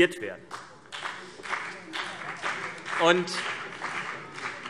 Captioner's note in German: Beifall BÜNDNIS 90/DIE GRÜNEN und vereinzelt CDU